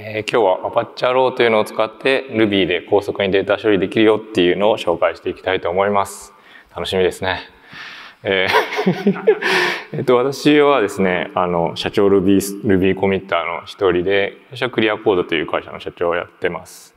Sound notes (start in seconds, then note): 8.4 chuckles